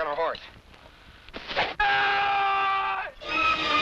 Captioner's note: arrow whooshes; man screams; suspenseful music